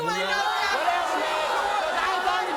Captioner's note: audience booing; audience drowns out